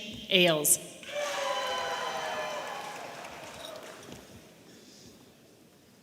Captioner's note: audience members cheering